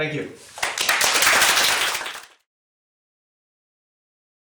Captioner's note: applause